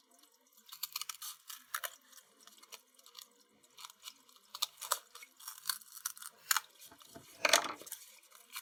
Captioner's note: scissors cutting cardboard